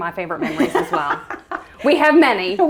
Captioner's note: laughs